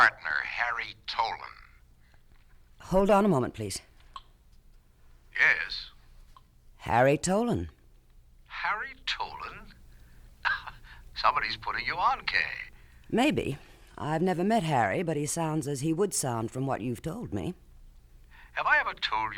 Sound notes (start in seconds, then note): 10.9 chuckles